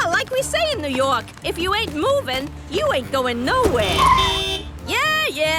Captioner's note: honking